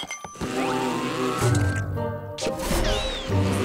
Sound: buzzing

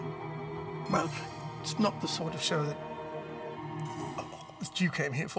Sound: gagging

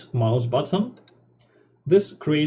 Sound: click

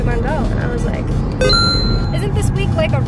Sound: bell rings

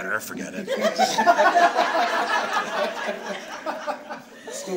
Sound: audience laughs

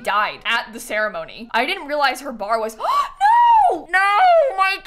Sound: gasps

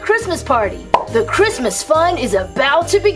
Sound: pops

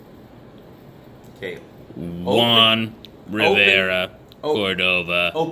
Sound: intercom

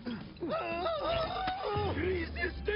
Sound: screaming

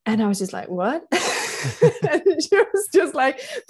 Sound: laughter

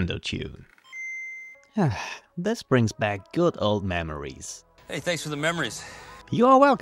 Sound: sighing

